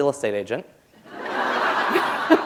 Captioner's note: laughter